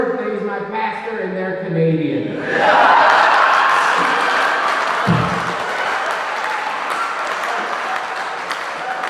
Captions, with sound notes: IT IS MY PASTOR AND THEY'RE CANADIAN. (AUDIENCE CHEERING)